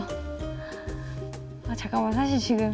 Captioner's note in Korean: 심호흡